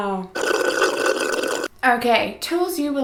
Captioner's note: slurping